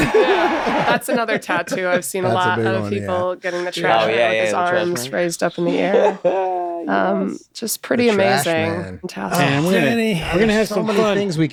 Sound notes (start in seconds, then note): 5.5 laughing